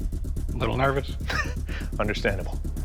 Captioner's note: chuckles